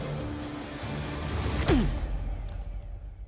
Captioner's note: grunting